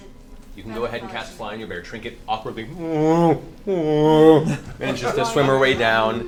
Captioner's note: bear noises